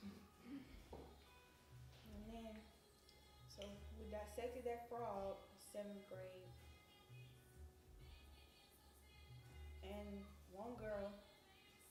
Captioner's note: exhales